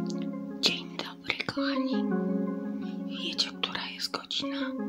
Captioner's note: quiet whisper